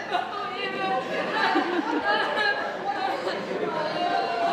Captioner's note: audience laughs